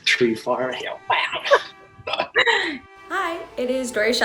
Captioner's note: both laughing